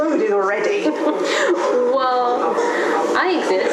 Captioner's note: laugh